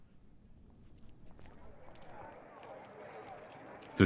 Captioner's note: murmuring